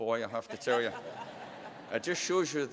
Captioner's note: laughter